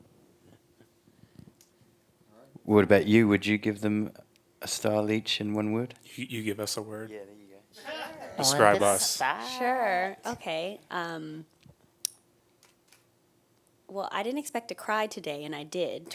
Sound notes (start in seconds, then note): 7.8 laughing